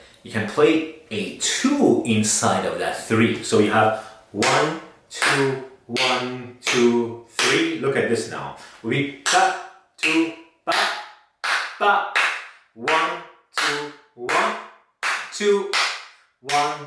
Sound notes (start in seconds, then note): 5.2 claps